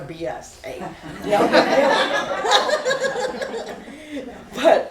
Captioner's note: laughter